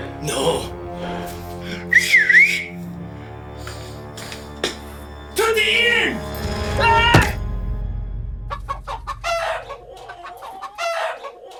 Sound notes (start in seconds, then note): 1.8 Siegmund whistling; 3.3 ominous music; 5.3 Siegmund yelling in German; 7.0 punch thudding; 8.6 chickens clucking